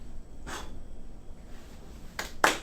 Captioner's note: Orderly #2 blows; room applauds